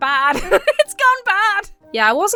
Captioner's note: laughs